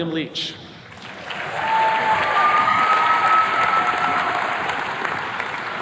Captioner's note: attendees cheers and claps